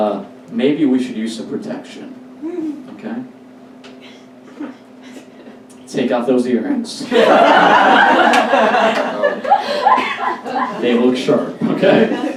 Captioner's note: audience Laughs